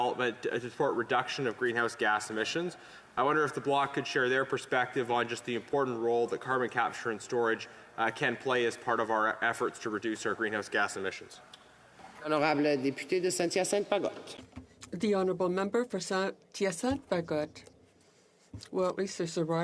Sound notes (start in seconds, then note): 17.3 speaking in French